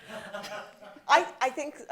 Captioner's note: laughter